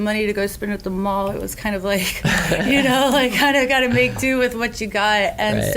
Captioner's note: laughs